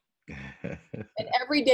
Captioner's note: laughs